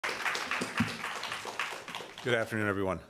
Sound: applause

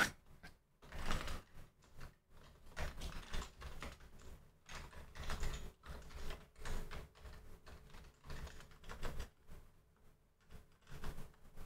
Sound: typing

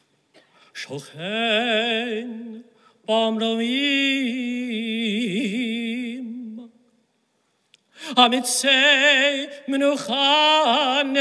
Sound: chanting in hebrew

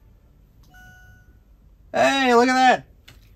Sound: device chimes

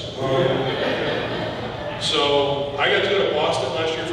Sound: audience laughing

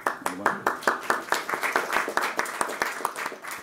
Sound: applause

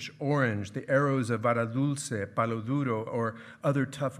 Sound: speaking in foreign language

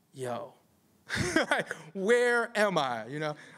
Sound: laughter

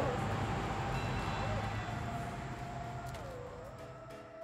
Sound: spooky static

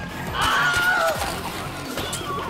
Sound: Wilhelm scream

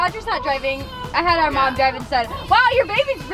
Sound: crying

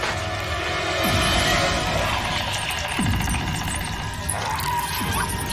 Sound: loud screeching

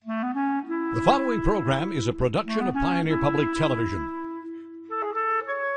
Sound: voiceover

